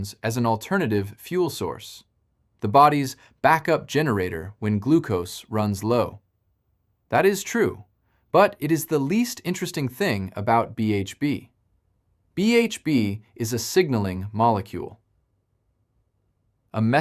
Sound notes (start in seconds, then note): 14.1 pause